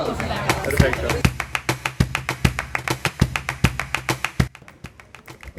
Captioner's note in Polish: aplauz